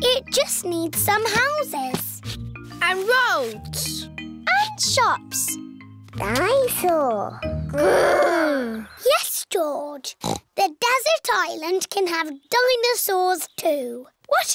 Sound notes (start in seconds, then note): 10.2 snorts